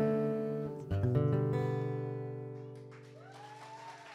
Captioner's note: cheers & applause